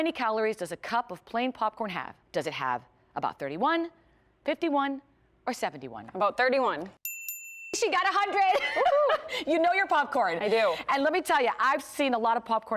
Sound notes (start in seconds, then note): 7.0 ding ding